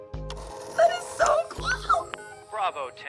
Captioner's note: phone whirs